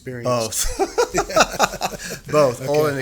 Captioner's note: laughing